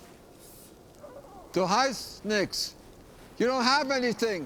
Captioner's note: speaking foreign language